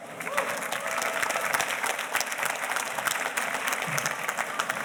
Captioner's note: audience applauding